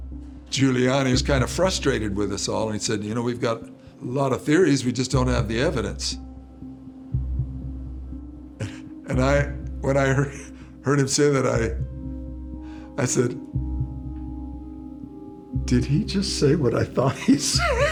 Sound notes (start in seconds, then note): 8.6 chuckles